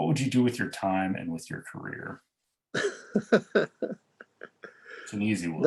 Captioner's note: laughs